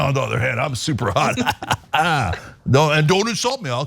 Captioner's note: laugh